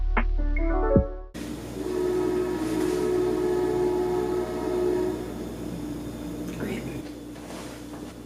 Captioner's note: outro music plays; train blares horn